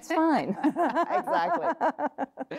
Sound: laughs

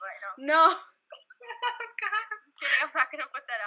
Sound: laughing

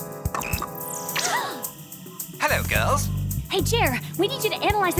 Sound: gasping

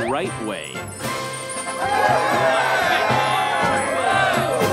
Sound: cheering

